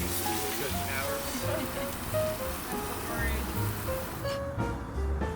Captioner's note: haha